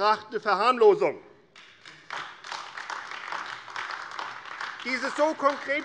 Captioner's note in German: Beifall AfD